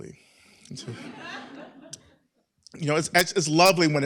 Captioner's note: laughter